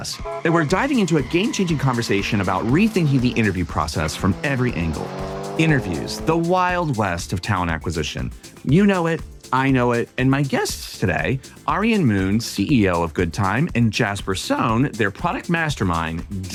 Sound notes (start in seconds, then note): 0.0 horn honking; 4.9 engine roaring